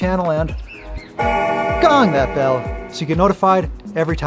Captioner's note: bell chiming